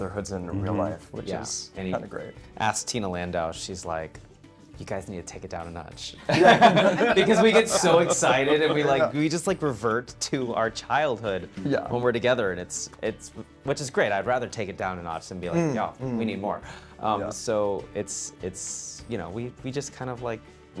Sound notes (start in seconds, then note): 6.2 laughing